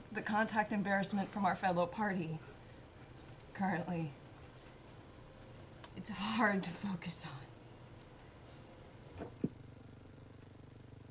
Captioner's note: hesitantly